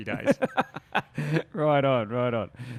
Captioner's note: laughs